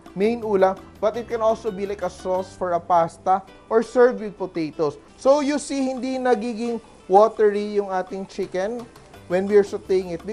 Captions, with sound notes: main course, -- but it can also be, -- like, a sauce for a pasta, -- or served with potatoes. [Sizzle] So, you see, -- [Sizzle] our chicken is not becoming watery -- [Sizzle] [Sizzle] when we're sautéing it, --